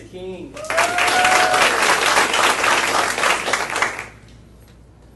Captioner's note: audience applauding